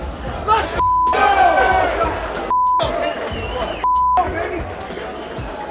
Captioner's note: beeping